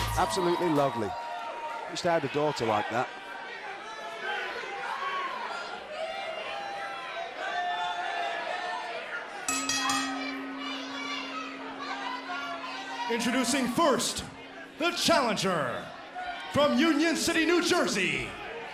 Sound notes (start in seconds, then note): 4.0 crowd chatter; 9.4 bell ringing